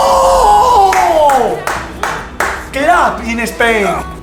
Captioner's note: claps in Spanish